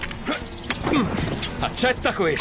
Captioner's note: dragon yells